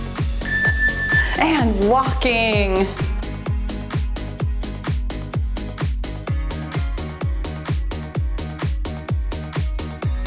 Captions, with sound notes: (timer beeps) And walking. (cheerful music)